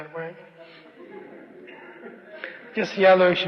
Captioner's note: laughter